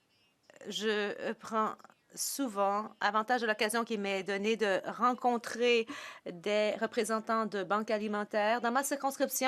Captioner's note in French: voix de l'interprète